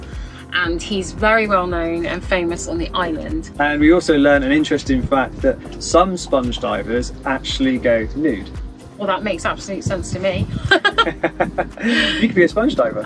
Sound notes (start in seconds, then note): 10.4 both laugh